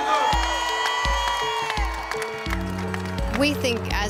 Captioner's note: crowd cheers